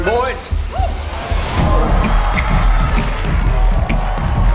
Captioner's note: audience cheering